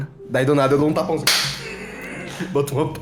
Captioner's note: slap